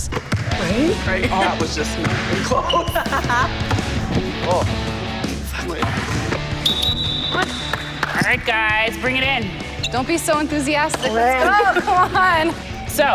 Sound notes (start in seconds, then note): 2.3 laughter; 6.5 whistle blows